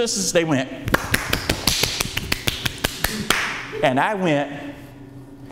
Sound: clapping

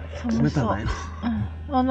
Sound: laughs

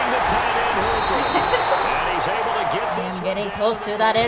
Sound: whistle blows; giggles

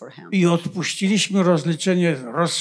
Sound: foreign language

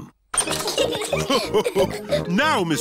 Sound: all laugh

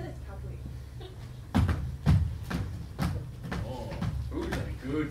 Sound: stomping

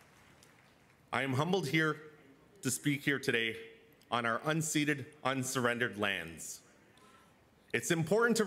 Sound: cheers and Applause

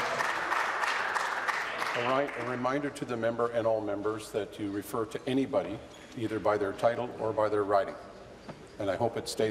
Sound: applause

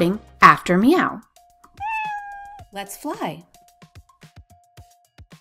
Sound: meow

